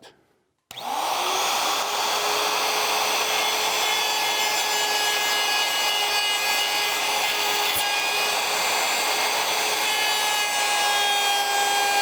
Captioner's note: machine revving